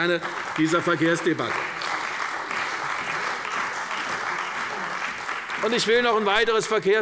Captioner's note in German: Beifall bei der CDU und dem BÜNDNIS 90/DIE GRÜNEN